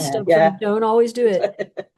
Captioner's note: laughs